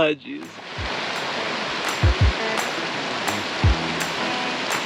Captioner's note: water running